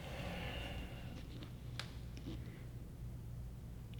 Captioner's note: bruce takes a deep breath